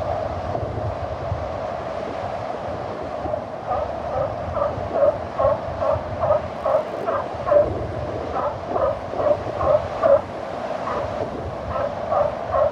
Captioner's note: barking Sea lion